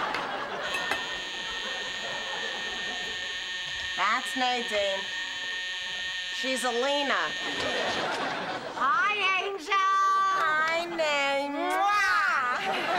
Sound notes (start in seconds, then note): 0.6 doorbell buzzing; 5.2 buzzing continues